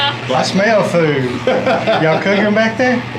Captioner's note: laughs